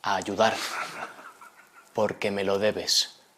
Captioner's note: laughing